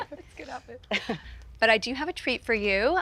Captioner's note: Jenna chuckles; chuckles